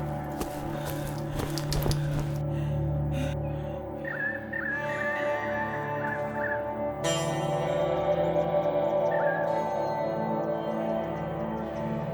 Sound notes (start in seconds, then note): 3.3 birds chirping; 4.5 steady ominous music